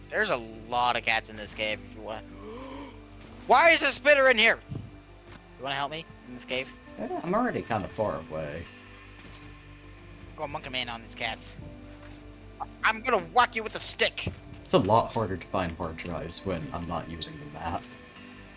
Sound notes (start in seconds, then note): 2.4 ominous gasp